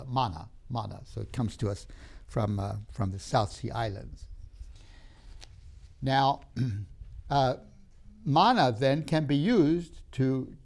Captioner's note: clears throat